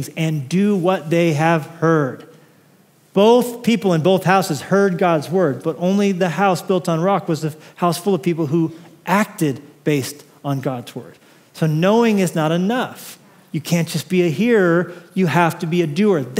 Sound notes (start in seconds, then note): none